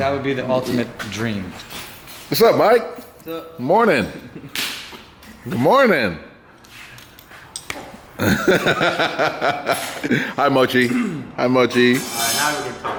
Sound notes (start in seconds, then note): 8.1 laughs